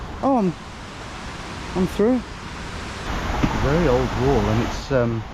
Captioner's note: none